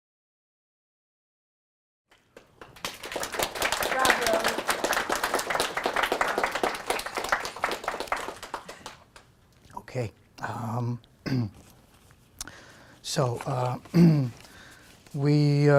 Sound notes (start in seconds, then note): 2.1 clapping